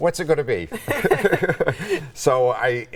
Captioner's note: both laughing